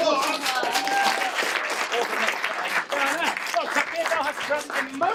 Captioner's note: audience applauding